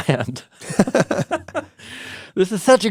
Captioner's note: chuckling